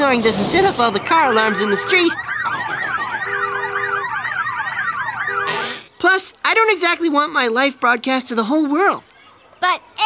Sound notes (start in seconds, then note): 2.9 alarms wailing